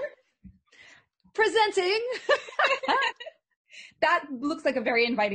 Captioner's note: they laugh